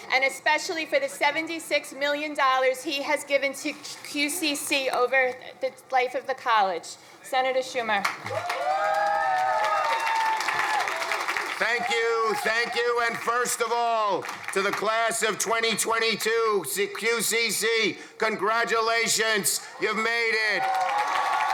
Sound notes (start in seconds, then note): 8.1 crowd applauding; 8.1 crowd cheering; 21.3 crowd cheering